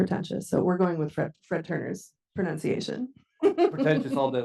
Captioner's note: chuckles